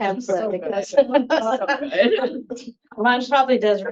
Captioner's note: laughing